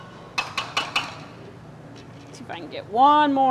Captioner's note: spoon banging